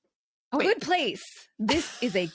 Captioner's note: laughs